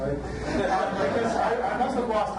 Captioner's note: audience laughs